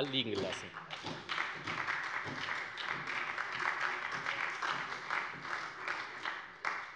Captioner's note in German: Beifall bei der SPD